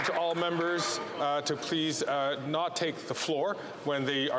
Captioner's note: some Applause